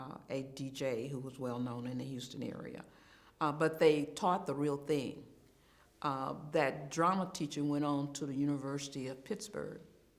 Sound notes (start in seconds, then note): none